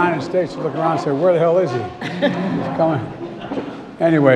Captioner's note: laughter